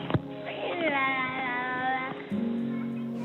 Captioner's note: murmurs